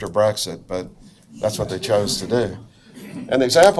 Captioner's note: audience laughs